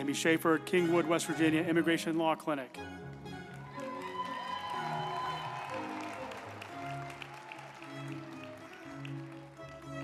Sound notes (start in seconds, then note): 3.0 group applauding; 3.5 uplifting music